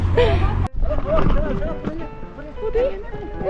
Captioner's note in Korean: 다급한 발걸음